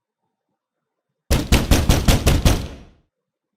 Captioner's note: loud banging at the door